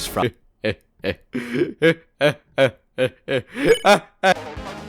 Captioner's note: inhales